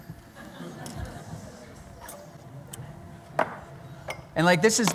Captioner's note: laughter